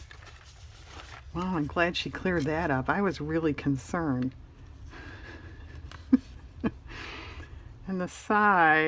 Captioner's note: laughs